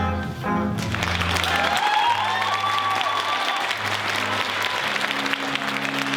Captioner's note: applause and cheers from crowd